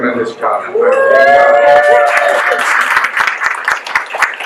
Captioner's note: guests cheer